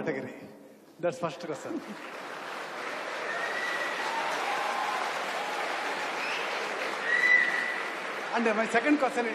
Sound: cheering/Applause

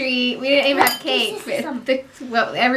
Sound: children chattering

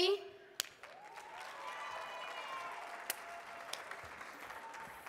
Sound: audience cheering

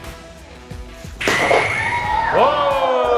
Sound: burrito exploding

